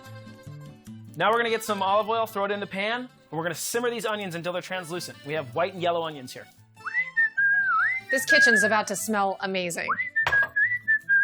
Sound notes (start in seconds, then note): 6.8 whistles along with italian music; 9.8 whistles